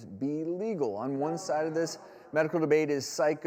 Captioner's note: crowd